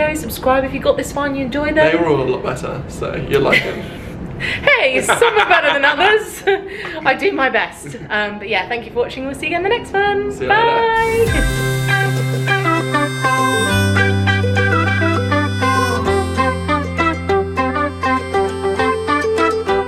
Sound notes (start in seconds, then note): 6.6 laughing; 11.0 cheerful upbeat music